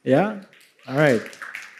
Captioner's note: clapping